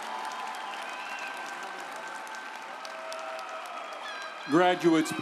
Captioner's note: audience cheering and applauding